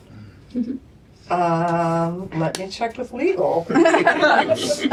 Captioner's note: laughter